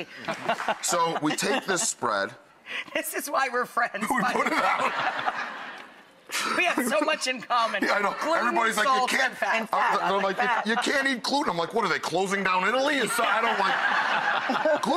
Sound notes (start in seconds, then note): 0.1 laughs; 0.2 audience claps; 4.2 laughs; 13.0 laughter